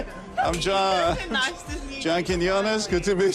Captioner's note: laughs